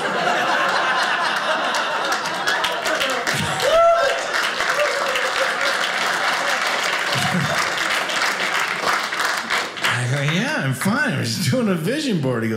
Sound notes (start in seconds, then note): 0.0 audience laughing; 3.4 audience applauding